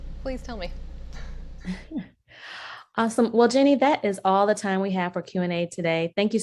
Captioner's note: laugh